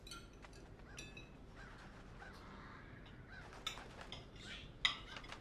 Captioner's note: birds cawing outside